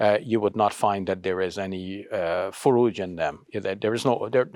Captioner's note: speaks Arabic